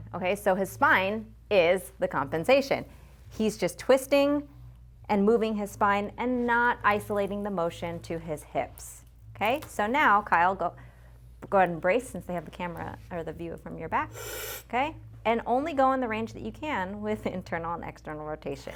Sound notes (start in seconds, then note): 14.1 inhales